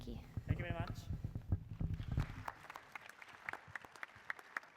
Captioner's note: applause